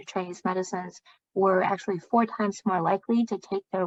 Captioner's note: speaking chinese